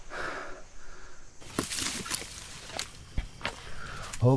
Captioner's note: insects chittering; leaves rustling